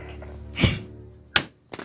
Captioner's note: anthony grunts